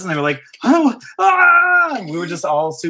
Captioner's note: shouting